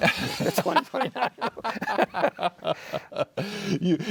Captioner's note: laughing